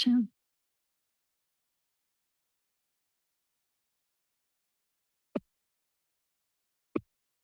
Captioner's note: silence